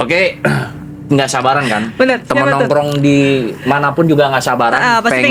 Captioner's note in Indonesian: berdehem